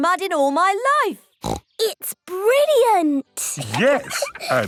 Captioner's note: laughs